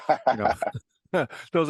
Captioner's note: laugh